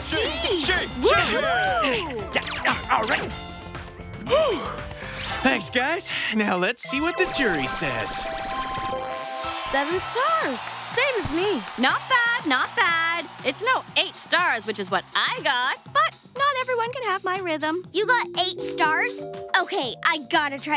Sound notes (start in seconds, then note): 1.3 grunt; 3.4 gasp